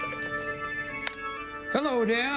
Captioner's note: organ music; ringing